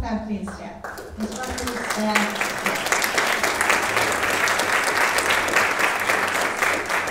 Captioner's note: audience applauding